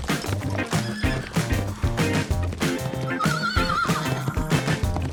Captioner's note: horse hooves thudding; horse neighing